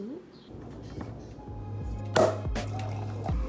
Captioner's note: cork pops